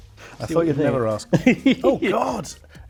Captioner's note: laughing